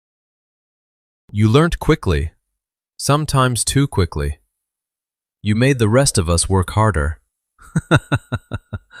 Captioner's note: laughter